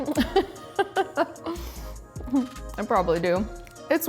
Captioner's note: laughs